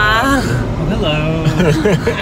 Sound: everyone laughs

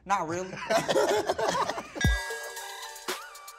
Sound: guys laugh; upbeat music

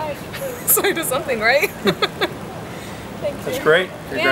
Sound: laugh

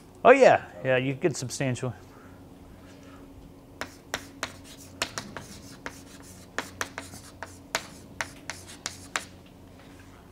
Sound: chalkboard writing

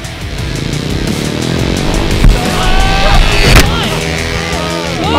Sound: voiceover

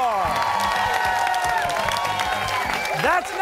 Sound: cheers and applause

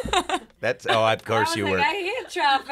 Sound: laughs

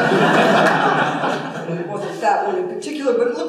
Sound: laughter

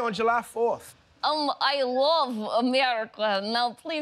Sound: Russian accent

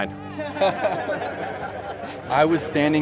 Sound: laughter

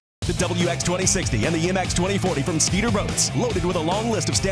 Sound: voiceover

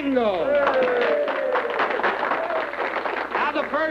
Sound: cheering

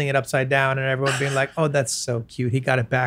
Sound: chuckles

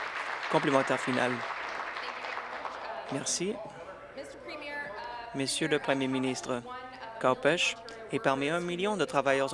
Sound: applause

